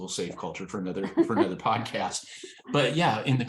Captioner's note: laughs